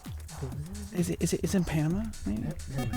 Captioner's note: wispering